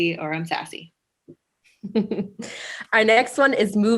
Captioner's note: laughs